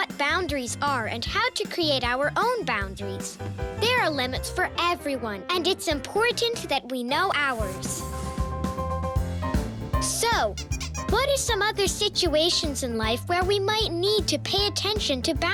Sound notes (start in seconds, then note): 10.4 squeaking